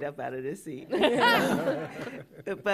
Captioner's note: laughter